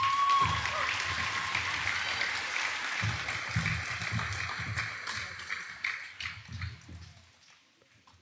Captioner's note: audience applauding